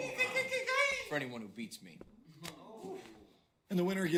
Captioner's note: ooh-ing